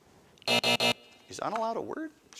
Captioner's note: alarm buzzes